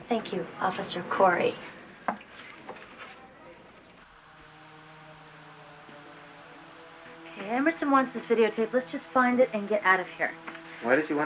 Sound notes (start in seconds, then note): 3.8 static